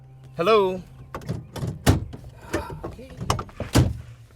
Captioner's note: clanging